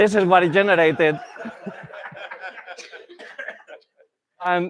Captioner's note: laughter